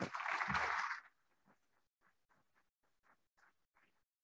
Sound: applauding

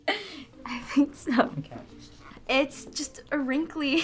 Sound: laughs

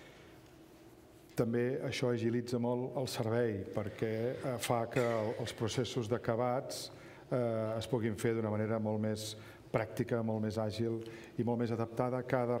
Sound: speaking catalan

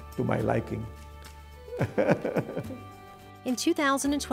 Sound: laughs

